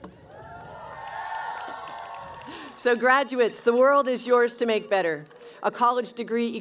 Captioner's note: cheering